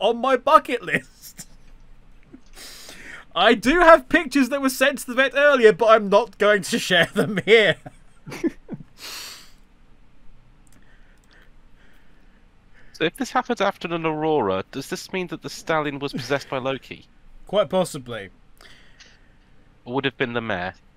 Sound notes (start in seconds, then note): 8.7 laughs